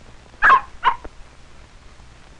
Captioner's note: barking